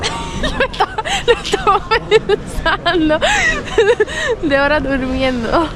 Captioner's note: laughs